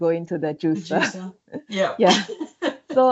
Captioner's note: laughs